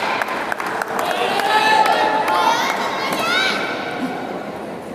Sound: applause

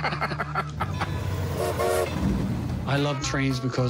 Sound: train whistles

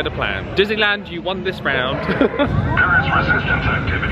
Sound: laughs

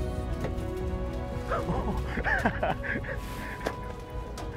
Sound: laughing

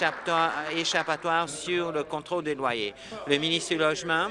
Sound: applause

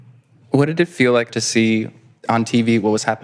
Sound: none

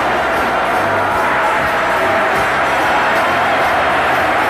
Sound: crowd cheering

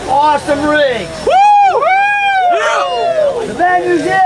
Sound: cheers

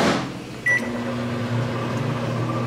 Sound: door slams; button beeping; microwave whirring

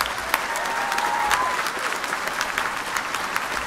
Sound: applause

